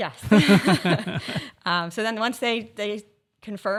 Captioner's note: group laughing